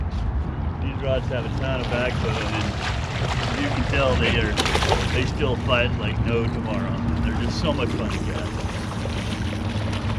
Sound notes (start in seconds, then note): 1.2 fish splashing